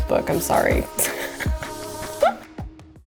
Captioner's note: laughing